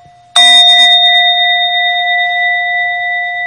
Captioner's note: bell chiming